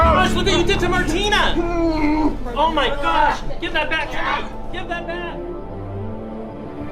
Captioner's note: grunting